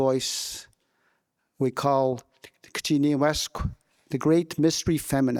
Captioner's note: speaking in</b> <b>Wolastoquey